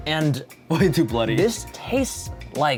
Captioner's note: chuckling